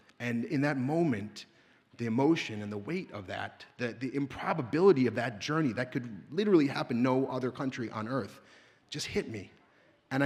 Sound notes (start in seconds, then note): none